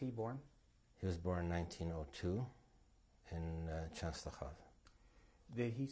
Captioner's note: non-english